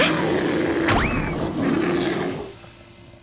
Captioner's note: bear growling